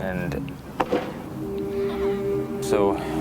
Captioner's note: baseball banging